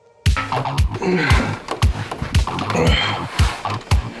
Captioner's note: dubstep; grunting